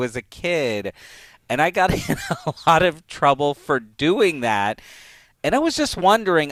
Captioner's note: laughs